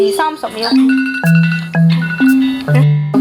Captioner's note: timer beeps